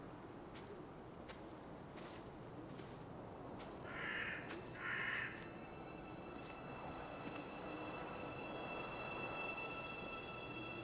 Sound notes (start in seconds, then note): 4.8 bird squawks; 6.9 suspenseful music